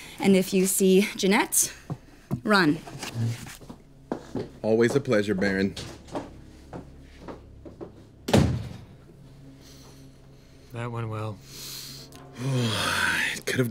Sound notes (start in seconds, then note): 6.4 door slams; 6.4 foot steps leaving; 11.6 sighs